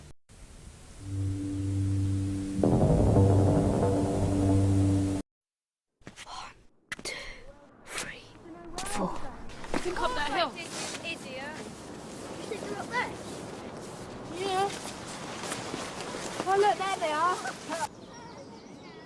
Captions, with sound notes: *WHISPERING* One... Two... Three... Four...